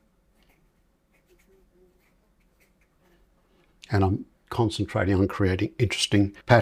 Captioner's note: silence